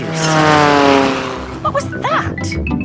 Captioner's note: plane flies